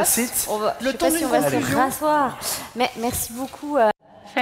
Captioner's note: speaking french